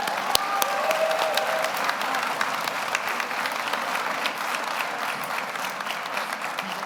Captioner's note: audience cheers; audience applauds